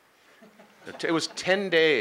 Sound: laughing

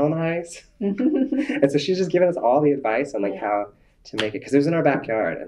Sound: laughter

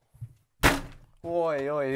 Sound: slams door

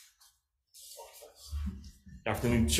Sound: papers rustling

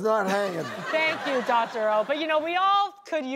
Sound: audience laughs

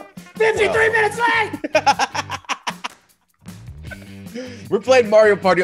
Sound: laugh

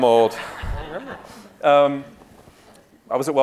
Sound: audience laughing

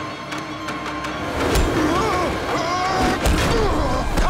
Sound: screaming

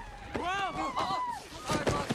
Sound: students shrieking

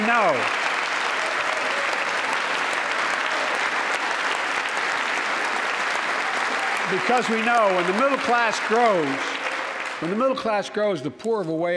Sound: applause

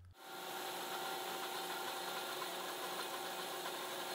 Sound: machine whirring

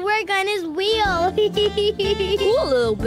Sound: laughs

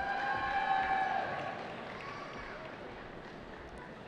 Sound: cheering

